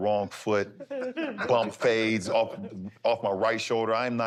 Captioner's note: laughter